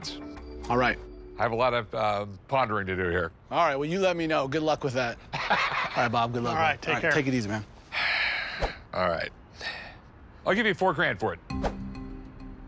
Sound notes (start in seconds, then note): 5.3 laughs; 7.9 sighs